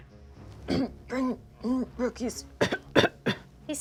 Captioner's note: clears throat